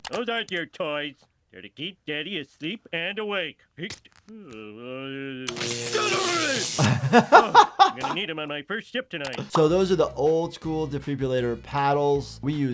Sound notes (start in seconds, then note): 4.3 groaning; 5.5 electricity crackling; 6.7 laughs